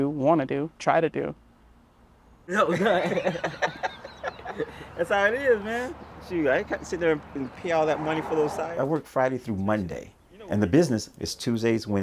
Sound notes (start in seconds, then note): 2.6 both laugh